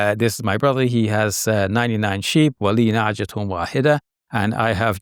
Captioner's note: speaks a foreign language